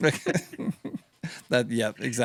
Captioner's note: laughing